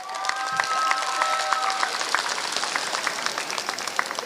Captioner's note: applause